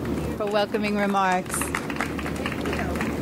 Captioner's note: audience applauds